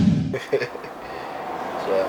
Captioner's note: laugh